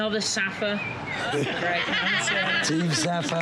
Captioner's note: group laughs